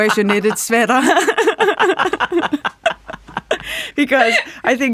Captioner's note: laughing